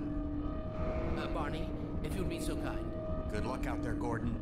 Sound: sirens in the distance

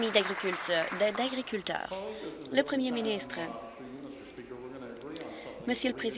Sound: applause

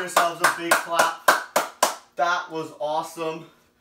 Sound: clapping

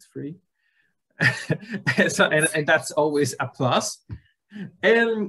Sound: laughs

